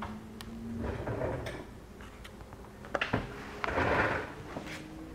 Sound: chair scrapping

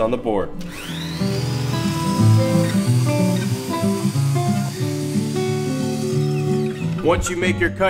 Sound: saw sounds

